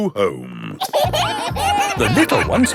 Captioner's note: kids giggling